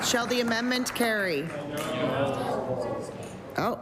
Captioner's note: applause